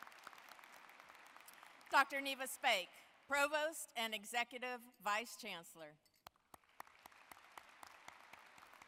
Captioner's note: applause